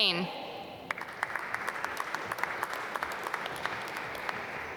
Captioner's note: applause